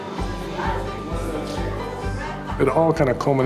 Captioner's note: people talking